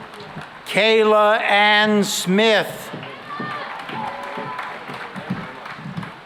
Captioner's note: cheering and applause